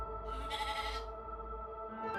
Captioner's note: rogue sheep bleat